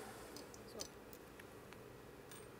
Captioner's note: quietly